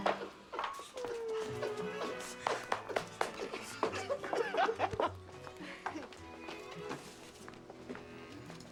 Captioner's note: laughing